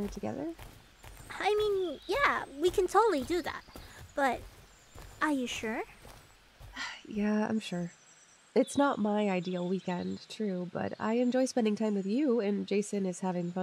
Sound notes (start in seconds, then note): 6.7 sighs